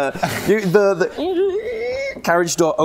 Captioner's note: creaaaaaaaaaak